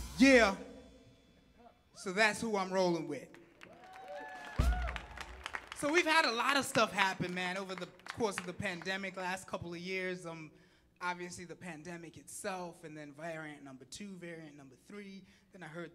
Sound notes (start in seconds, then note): 3.4 audience clapping and applauding